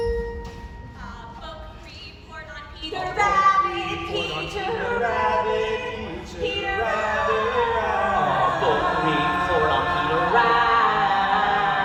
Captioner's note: 4 voices stacked and shifted